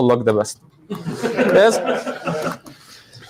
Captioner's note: background laughter